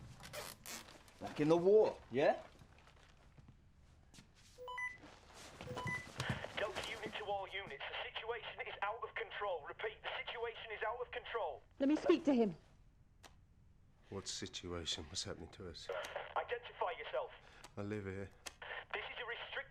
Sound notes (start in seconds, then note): 6.8 walkie talkie